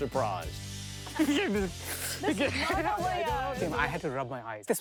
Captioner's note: indistinct chatters